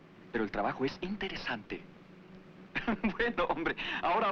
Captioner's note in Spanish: ríe